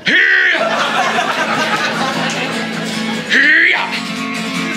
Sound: audience Laughing

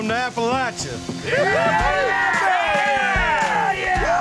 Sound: cheering

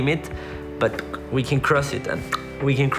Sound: clicks tongue

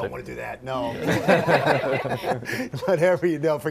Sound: all laugh

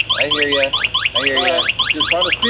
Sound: bike beeping

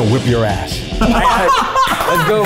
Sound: laughs loudly

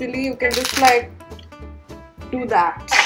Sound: mask snaps

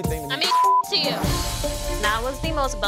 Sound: beep

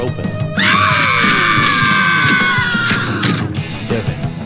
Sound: screaming

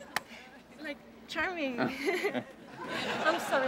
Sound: laughs nervously

